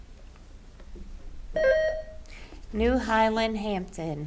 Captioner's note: button buzzing